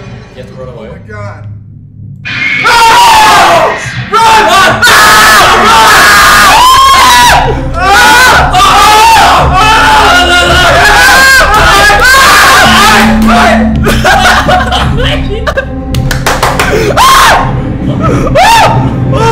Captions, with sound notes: Do you have to run away? *panic and screaming*